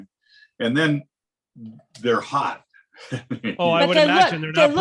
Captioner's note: laughing